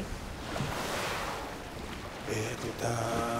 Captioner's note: water splashes